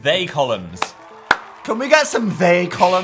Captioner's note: and audience clapping